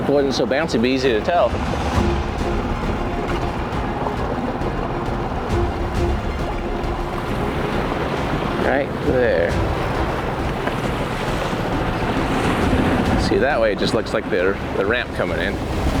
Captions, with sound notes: If it wasn't so bouncy, it'd be easy to tell. (dramatic music continues) (waves crashing) Right there. See, that way it just looks like the ramp coming in.